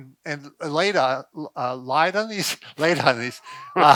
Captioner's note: laughs